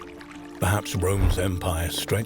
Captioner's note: horse galloping